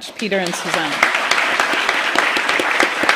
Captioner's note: applause